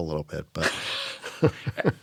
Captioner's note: laughter